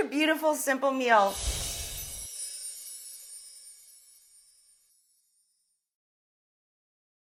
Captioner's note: air whooshes; wind chime music